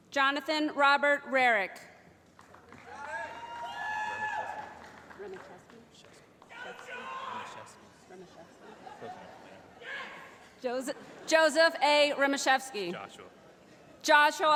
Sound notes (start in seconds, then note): 2.8 shouting